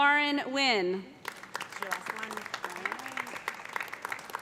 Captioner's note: applause